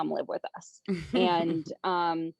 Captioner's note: chuckles